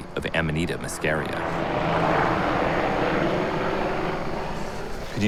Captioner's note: aircraft passing overhead